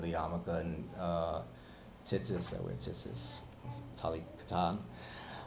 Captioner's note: speaking Hebrew